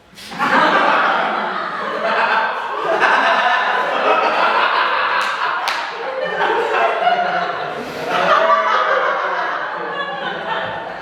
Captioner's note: audience laughter